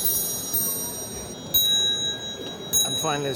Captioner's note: chimes